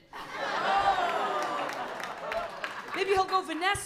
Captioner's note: laughter